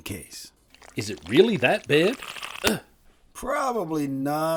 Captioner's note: grunting